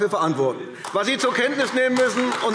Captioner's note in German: Beifall AfD